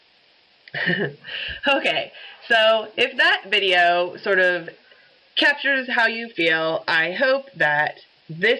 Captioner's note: laughs